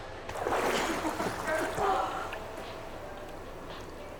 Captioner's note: water splashing